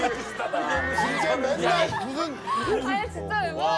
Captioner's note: just laughs